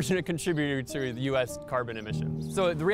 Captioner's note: birds chirping